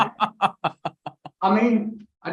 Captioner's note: chuckles